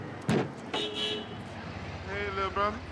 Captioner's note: car honking